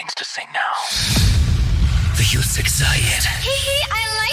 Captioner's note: Static